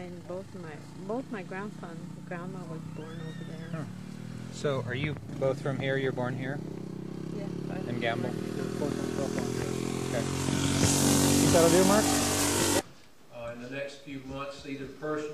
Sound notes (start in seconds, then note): 9.6 car sounds